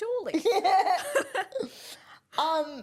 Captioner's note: laughs